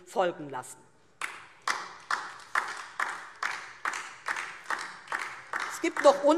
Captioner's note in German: Beifall DIE LINKE